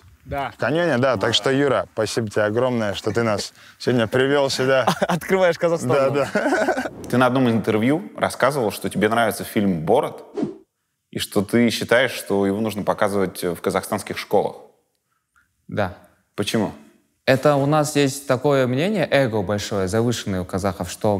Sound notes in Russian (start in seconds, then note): 5.8 смеется